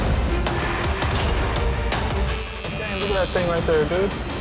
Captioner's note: needles buzzing